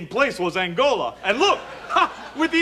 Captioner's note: audience laughs